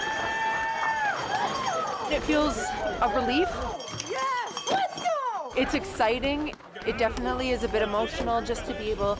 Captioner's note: cheers and Applause